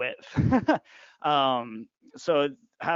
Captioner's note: laughing